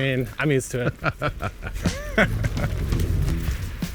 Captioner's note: laughing